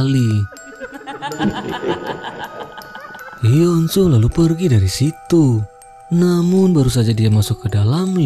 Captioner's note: laughs